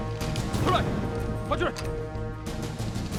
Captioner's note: barks commands in Chinese language